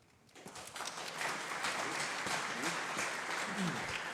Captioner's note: audience applauding